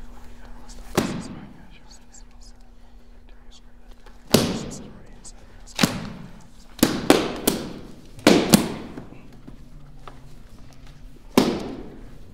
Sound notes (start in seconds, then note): 0.9 book slamming shut